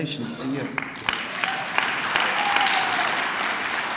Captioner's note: clapping